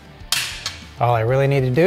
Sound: washer clicking

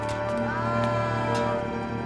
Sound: groaning

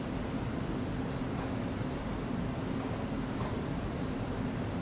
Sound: power level beeps

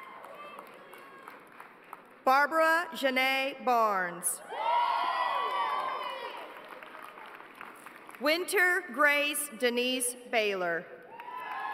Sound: cheers and applause

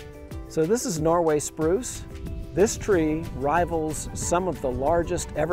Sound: none

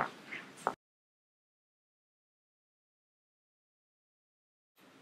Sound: silence

